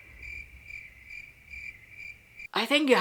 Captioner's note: crickets